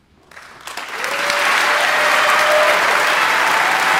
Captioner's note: audience applauding